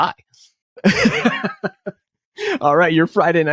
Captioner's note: laughs